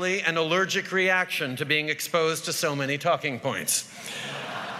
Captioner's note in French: Rires